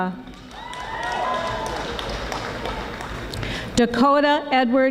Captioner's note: audience applauding